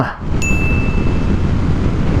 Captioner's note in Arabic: دينغ